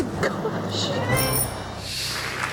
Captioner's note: bike bell rings; audience applauds